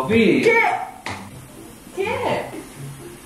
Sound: slap sound

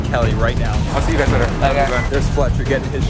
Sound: murmurs

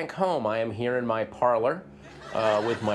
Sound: audience laughter

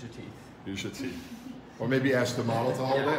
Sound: chuckling

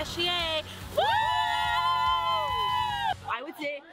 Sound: cheering

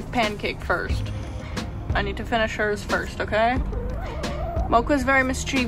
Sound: chicken noise

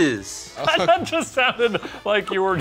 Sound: laughs

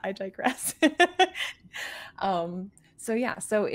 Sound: laughs

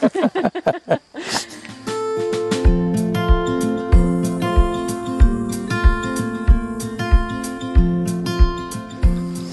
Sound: speaks in Hindi - not transcribed

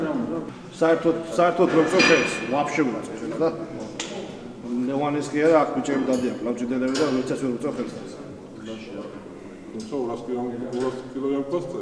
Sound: laughs

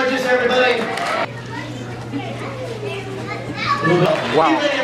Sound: audience chatters

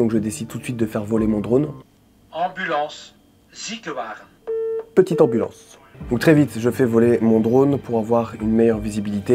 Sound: radio

